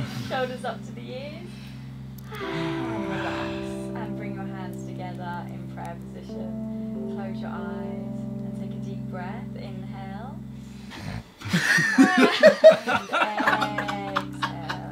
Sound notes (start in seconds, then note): 0.0 Simon exhaling loudly; 2.3 group exhaling loudly; 10.9 Harry snorting; 11.4 group laughing